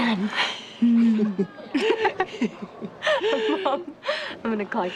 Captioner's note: both laughing